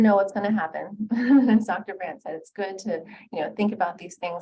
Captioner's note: laughing